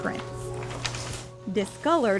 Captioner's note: papers shuffling